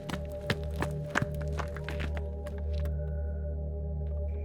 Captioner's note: feet clopping; eerie music